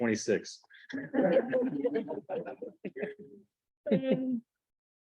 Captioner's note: laughter